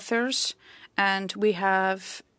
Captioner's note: speaking French